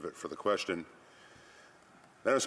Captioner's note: speaking alternate language